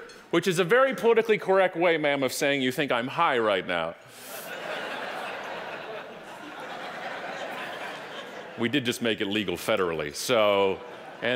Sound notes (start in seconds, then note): 4.2 audience laughing